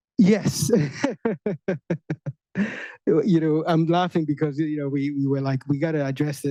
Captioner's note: chuckles